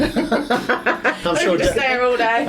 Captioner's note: laughing